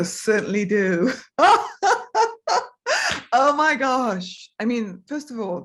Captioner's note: laughs